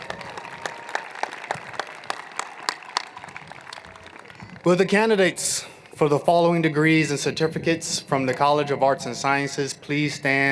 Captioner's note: applause